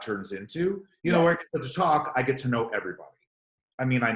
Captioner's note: murmurs